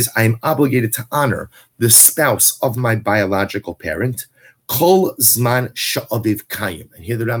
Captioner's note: Hebrew